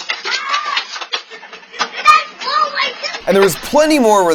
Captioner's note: kid screaming